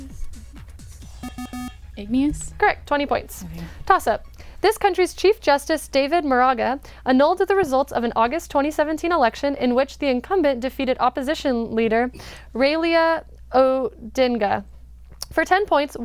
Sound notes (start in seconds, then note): 0.0 wispering; 1.2 bell